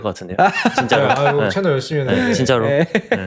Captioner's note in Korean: 웃음